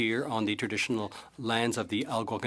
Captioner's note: speaking French